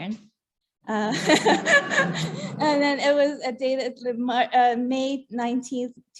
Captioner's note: laughter